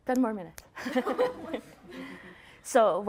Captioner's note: laughter